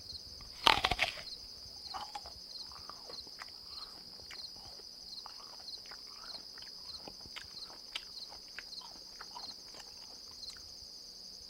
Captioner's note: crickets; bite into an apple and chewing